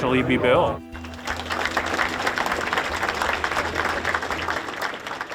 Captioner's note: applause